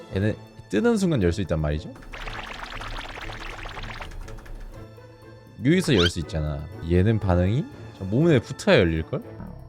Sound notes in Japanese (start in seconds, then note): 1.9 とんとん